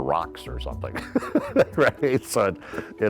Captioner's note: chuckling